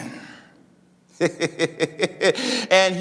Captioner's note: laughing